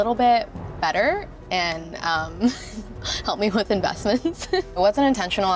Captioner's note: giggles